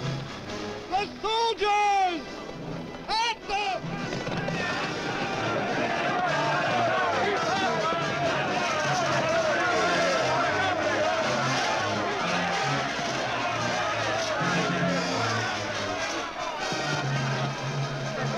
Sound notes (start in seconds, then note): 4.4 men shouting